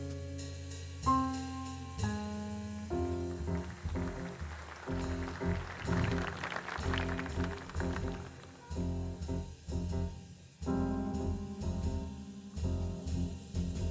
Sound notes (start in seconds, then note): 3.3 audience applauds